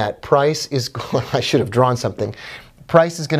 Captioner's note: laughing